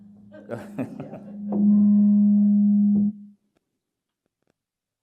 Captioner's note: chuckles